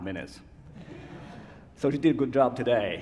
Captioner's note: laughter